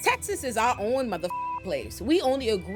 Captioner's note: beep